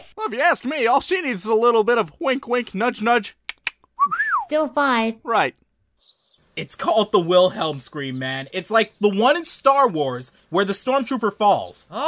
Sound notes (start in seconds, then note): 3.4 tongue clicking; 4.0 whistling